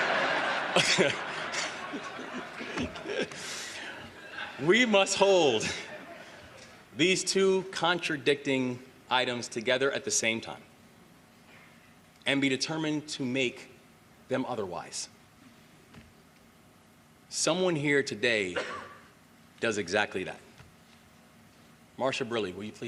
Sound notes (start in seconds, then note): 3.4 laughter